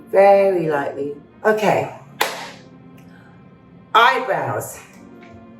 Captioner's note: claps